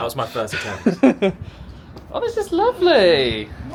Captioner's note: laughs